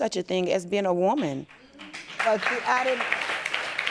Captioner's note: audience applauding